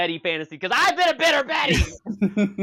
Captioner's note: yells; laughter